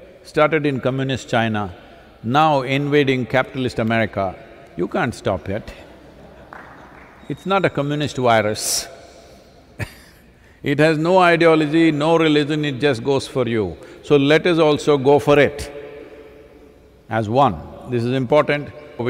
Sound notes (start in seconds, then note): 8.9 laughs